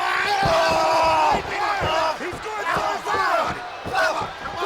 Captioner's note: wrestlers grunting